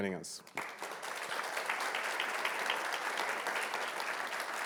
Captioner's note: audience clapping